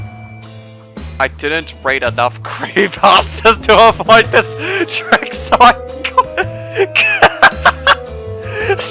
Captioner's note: bursts into endless laughing